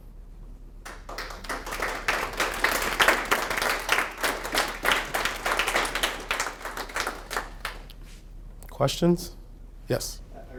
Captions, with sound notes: (clapping) Questions, yes?